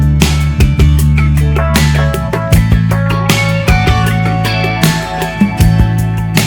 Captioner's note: whispering